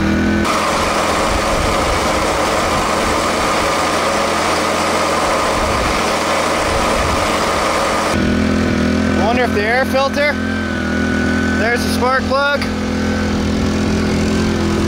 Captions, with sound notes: (engine chugging) (motor humming) Wonder if the air filter. There's a spark plug.